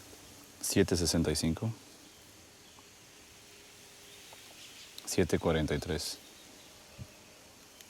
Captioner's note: speaking in foreign language